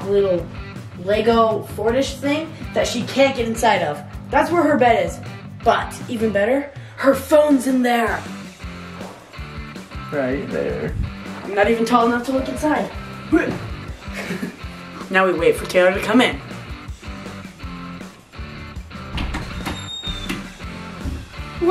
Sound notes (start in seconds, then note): 13.4 laughs; 13.4 grunts; 16.9 rock and roll music; 19.0 door creaks